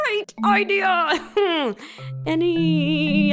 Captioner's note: laughs in pain